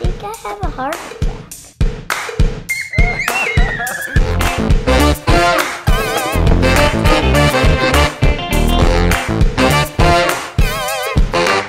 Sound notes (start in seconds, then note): 2.7 kids screaming; 4.3 energetic music